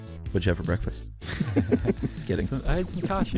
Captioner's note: laughs